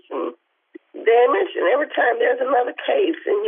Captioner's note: tearfully